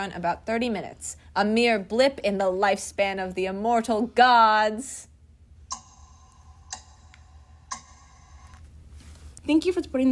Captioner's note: clock ticking